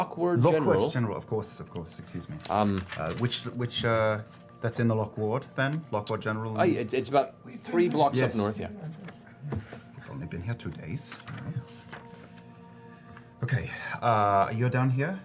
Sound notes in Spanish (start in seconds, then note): none